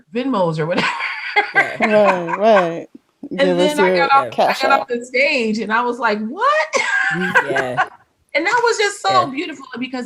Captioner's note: laughs